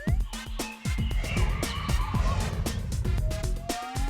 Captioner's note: birds chirping